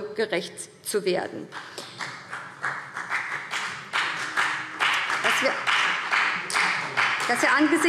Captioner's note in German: Beifall BÜNDNIS 90/DIE GRÜNEN und CDU